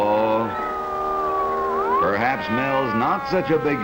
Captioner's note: siren wailing